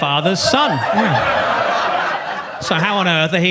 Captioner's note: audience laughs